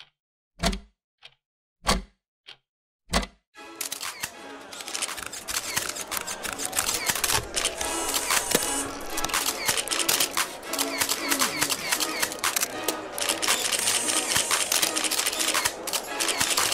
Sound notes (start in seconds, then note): 3.8 crowd murmuring; 4.7 bright upbeat music; 4.7 cameras clicking; 4.8 camera clicks